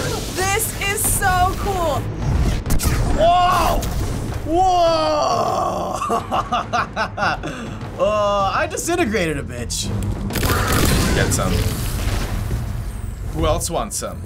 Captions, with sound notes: this is so cool! - Whoa! Whoa! (laughs) Uh, I disintegrated a bitch. - Get some. Who else wants some?